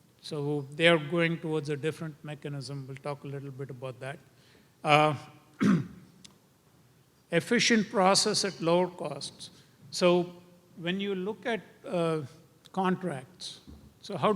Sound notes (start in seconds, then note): 5.5 cough